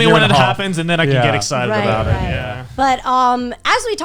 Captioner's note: group agreeing